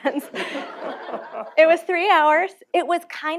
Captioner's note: laughter